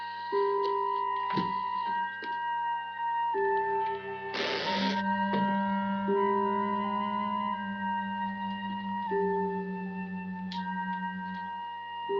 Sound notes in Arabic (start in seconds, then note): 4.3 تُغلق النافذة وتُصدر صريرًا; 6.1 تُعزف موسيقى غريبة